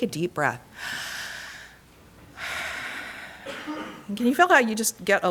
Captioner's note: inhales deeply